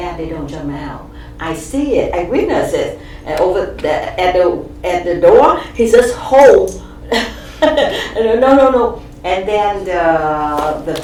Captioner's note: laughs